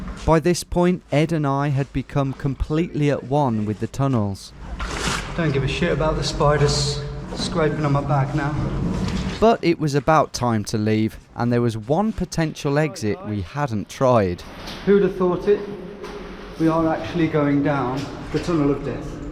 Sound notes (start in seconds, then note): none